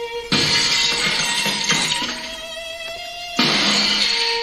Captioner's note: glasses shattering